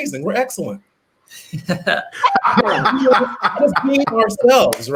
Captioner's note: laughing